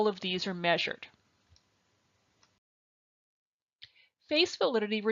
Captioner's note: silence